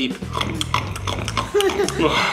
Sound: chewing noises; laughter

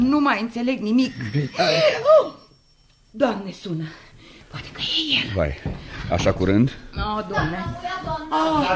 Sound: screams in fear

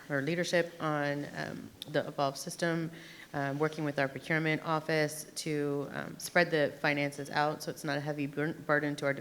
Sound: none

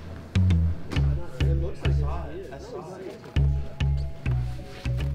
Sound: suspenseful music; they chatter

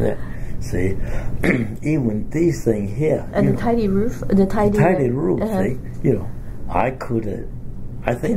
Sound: coughs

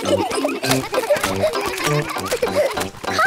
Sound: kids giggling

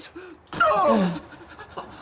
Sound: all exclaim

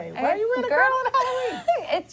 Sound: laughter

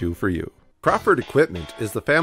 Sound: voiceover

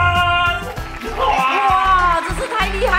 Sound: clapping

